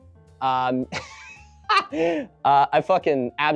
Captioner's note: laughing